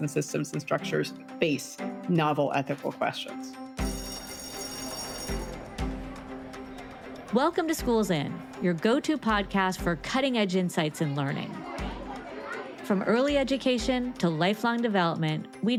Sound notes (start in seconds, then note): 3.8 bell ringing; 4.1 bright music